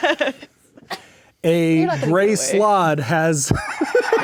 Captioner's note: speaking quietly; players laughing